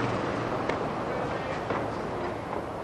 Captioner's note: foot steps